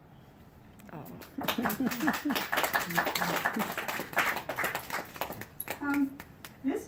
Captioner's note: applause